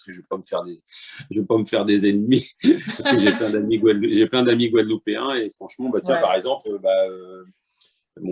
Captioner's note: laughter